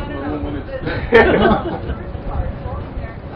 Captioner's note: Gülüyorlar